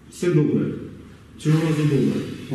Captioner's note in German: spricht Ukrainisch